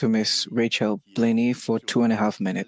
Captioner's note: speaking French